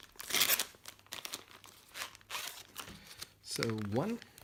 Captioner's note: plastic tearing